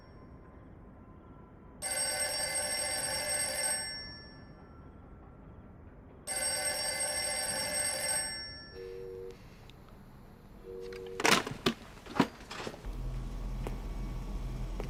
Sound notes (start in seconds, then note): 1.8 rings again; 6.2 continues ringing